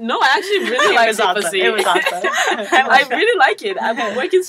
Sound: laugh

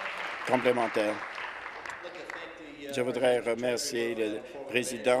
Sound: applause

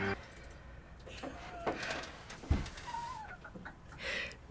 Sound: FBE snickers

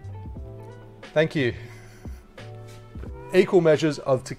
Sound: laughs

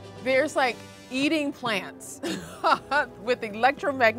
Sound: chuckles

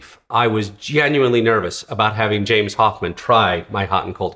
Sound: none

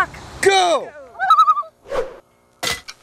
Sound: loon calls

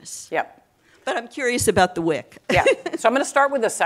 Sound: laughs

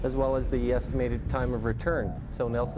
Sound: voiceover

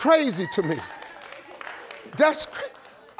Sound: applause

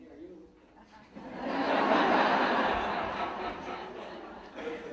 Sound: audience laughing

